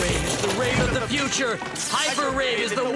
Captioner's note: crashing